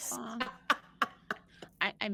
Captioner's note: all laughing